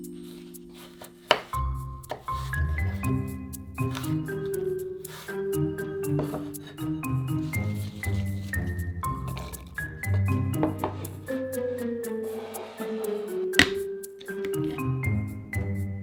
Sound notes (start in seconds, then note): 12.2 bowl sliding